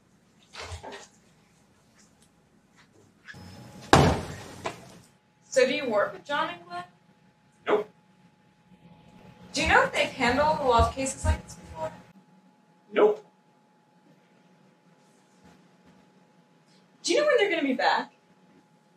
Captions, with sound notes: [door closing] So do you work with John and Glenn? Nope. Do you know if they've handled a lot of cases like this before? Nope. Do you know when they're going to be back?